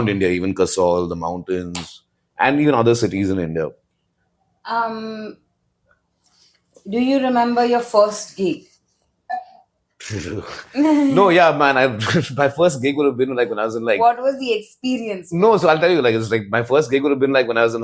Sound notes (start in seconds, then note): 10.0 laughs